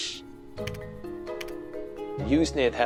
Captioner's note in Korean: 타자 소리